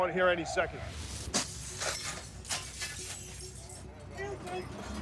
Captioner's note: breaking glass